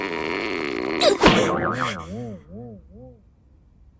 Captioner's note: groans, gasps